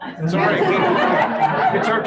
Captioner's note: laughter